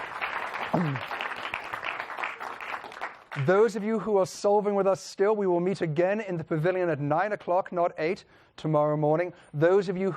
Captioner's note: applause